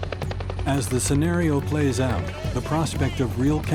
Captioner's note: voiceover